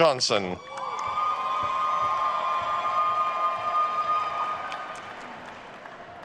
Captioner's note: attendees cheering and applauding